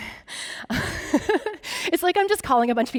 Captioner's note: laughing